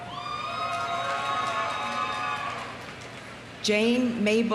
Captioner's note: audience cheering; audience applauding